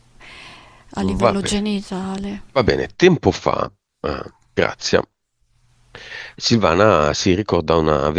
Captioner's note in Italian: schiarire la voce